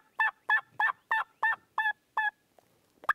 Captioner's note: turkey calling